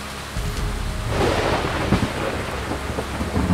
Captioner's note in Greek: βροντή